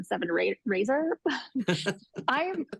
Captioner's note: laugh